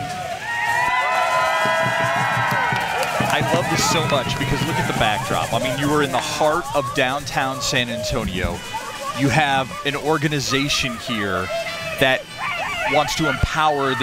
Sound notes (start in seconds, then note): 5.2 applause